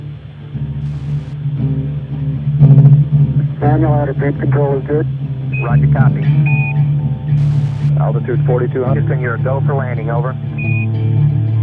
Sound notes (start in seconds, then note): 3.5 voiceover